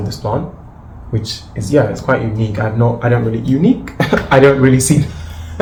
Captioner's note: laughs